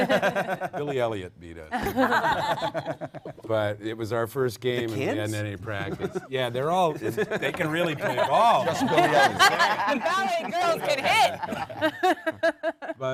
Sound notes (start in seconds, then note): 3.3 panel laughs